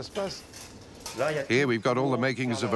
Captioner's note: speaking in foreign language; dishes clattering